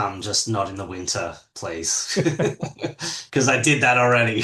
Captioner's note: laughs